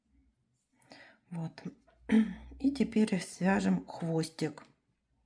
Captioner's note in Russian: откашливается